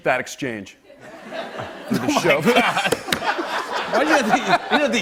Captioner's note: laughter